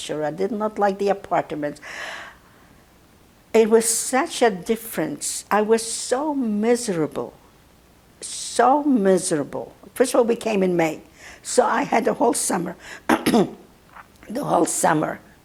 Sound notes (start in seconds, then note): 13.1 clears throat